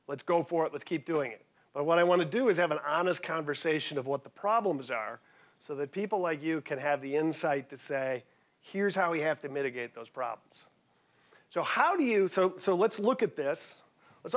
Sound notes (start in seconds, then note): none